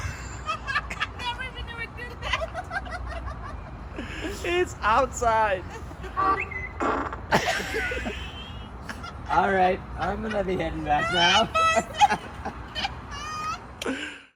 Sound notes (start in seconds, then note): 11.4 laughing